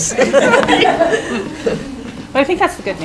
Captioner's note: laughing